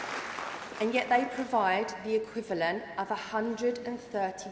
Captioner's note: applause